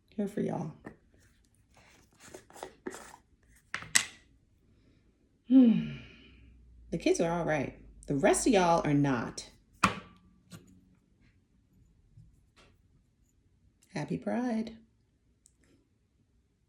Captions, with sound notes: Here for y'all [sigh] The kids are alright The rest of y'all are not Happy Pride!